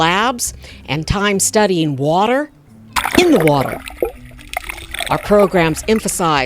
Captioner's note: water sounds